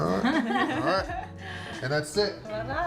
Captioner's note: laughing